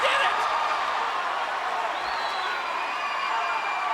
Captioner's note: crowd cheering